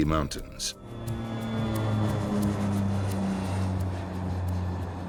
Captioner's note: engines droning